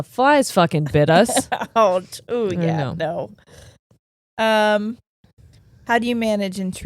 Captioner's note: giggling